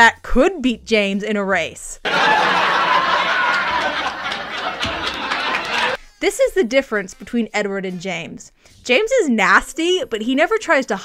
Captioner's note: laugh track